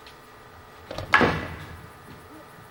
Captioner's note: whack